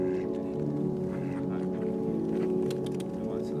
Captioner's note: ducks quacking; tongue ticking